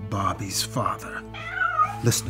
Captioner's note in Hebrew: יללה